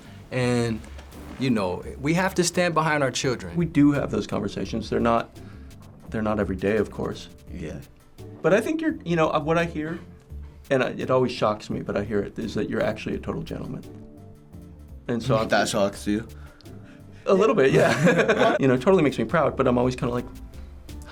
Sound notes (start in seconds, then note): 17.4 both laugh